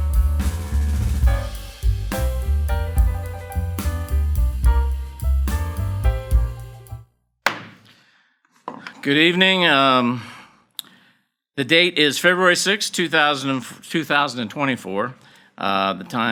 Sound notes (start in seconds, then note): 0.0 gentle jazzy music; 7.5 gavel bangs